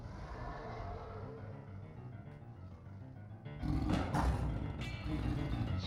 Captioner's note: roars; dramatic music